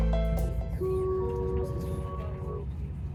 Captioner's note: train announcement chime